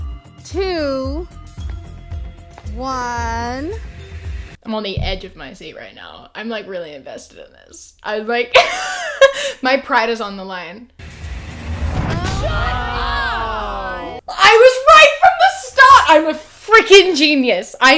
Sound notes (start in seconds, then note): 8.8 laughs